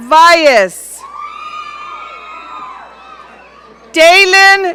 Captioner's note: audience cheering